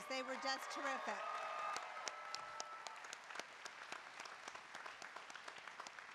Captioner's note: applause